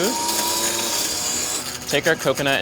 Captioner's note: blender whirs